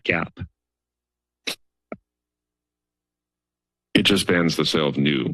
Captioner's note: silence